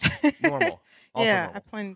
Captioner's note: laughing